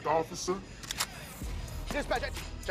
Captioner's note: gun cocks